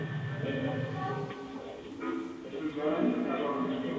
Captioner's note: child's voice